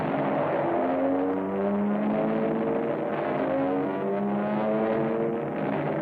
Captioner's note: airplane rumbling